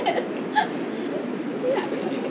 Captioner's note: Gülüşmeler